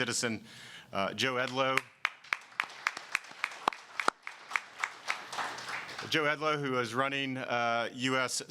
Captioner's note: applause